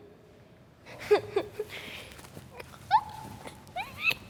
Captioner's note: kids giggles